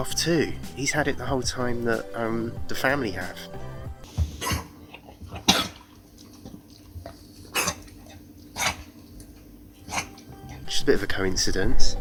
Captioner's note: dog coughing